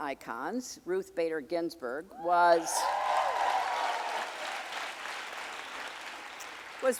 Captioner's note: audience cheering and applauding